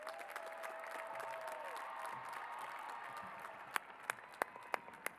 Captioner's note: cheers and applause